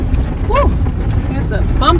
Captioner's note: van rattling